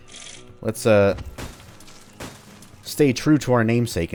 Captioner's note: smash smash